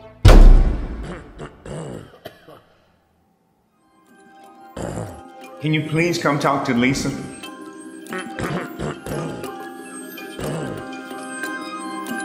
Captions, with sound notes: (Dramatic hit) (clearing throat) Can you please come talk to Lisa? (clearing throat) (mysterious music)